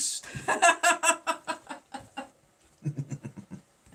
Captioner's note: laughing